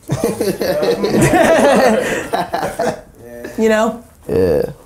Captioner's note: laughing